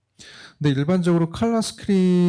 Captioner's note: speaking korean